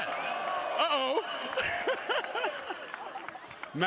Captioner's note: applause